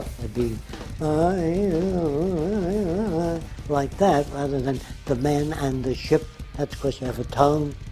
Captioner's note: humming